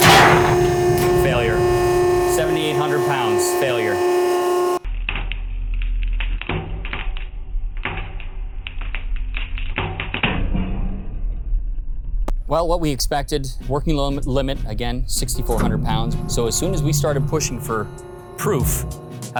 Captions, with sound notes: (sling pops) Failure. 7,800 pounds, failure. (sling crackling) (sling pops) Well, what we expected, working load limit, again, 6,400 pounds. So as soon as we started pushing for proof,